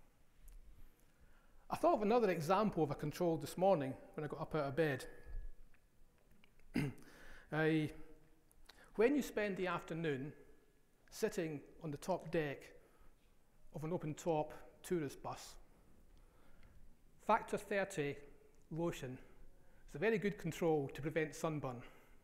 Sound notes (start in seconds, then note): 6.7 coughs